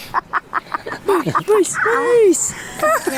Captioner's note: laughing